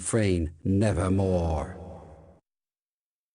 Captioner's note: echoing